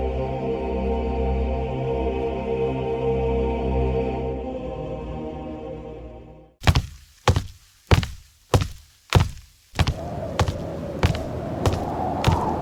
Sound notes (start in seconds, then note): 6.6 steps thudding; 9.9 wind whooshing